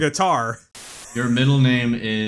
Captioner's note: static